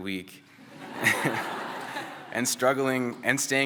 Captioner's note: laughter